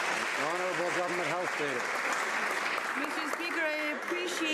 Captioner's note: some Applause